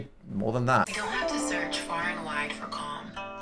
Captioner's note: soothing Voice